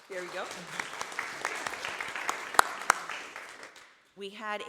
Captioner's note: audience applauding